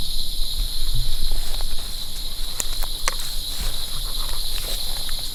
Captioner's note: insects chirping